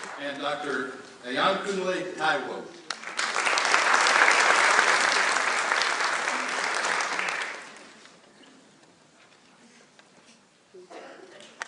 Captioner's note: clapping